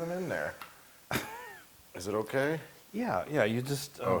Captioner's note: laugh